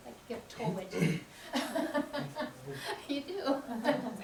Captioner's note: laughter